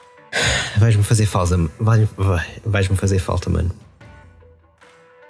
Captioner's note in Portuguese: suspiro